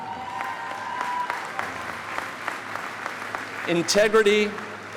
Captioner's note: audience applauding